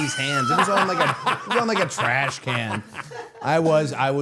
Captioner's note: Matt laughing